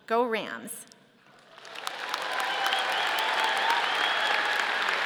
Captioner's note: audience applauding